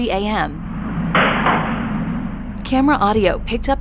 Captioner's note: gunshot